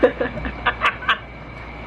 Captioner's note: evil laugh